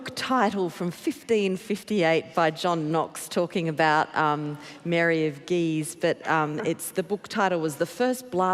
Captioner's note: laughter